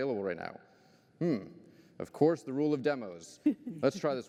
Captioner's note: laughter